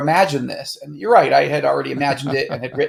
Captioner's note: laughing